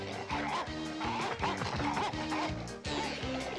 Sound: barking

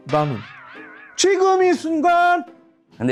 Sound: sudden outburst

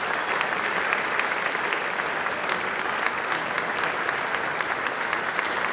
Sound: applause

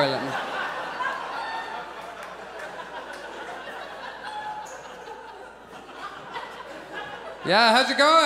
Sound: audience laughs

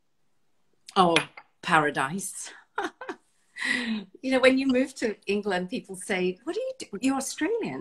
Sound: laughs

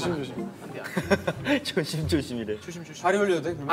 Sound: laughing

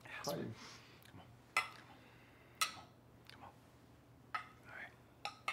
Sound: glasses clinking

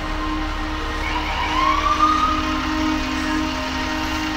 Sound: loud sirens

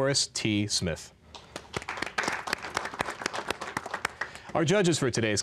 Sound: applause

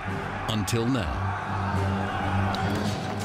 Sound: battle cry

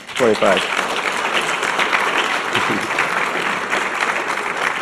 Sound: audience clapping

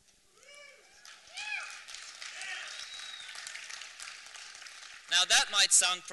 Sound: applause

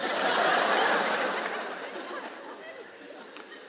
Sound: laughter

